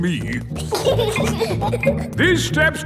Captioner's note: giggling